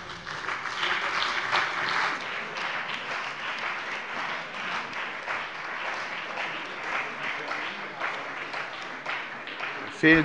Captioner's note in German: Beifall bei dem BÜNDNIS 90/DIE GRÜNEN und der CDU